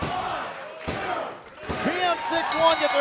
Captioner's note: fans chanting